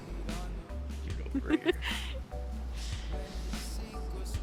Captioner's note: Fern laughs